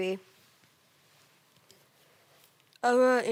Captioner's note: rustling